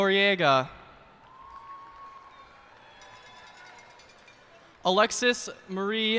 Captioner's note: cheers and applause